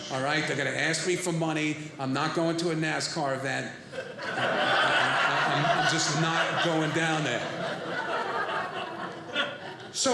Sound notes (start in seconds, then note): 3.8 audience laughing